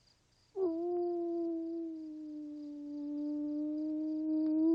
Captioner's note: wolf howling